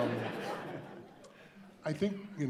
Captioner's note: audience laughing